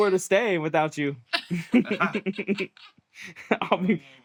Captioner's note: laughter